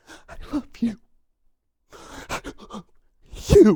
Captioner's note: sobbing